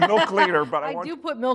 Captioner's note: Julia laughs